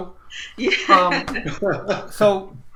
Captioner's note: happy laughter